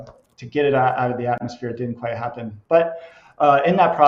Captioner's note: none